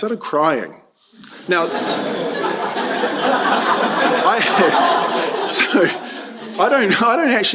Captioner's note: laughter